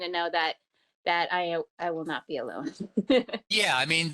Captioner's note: giggles